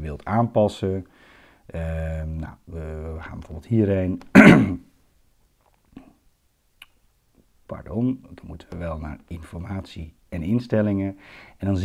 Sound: coughs

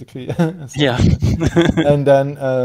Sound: laughs

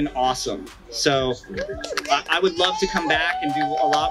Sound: applauds

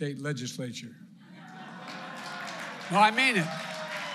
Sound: laughter and applause

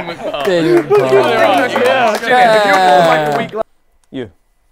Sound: people clapping

